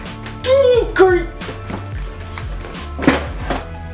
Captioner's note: grunts